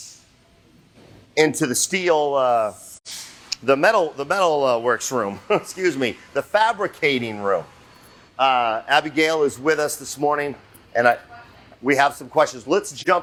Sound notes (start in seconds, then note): 5.3 chuckles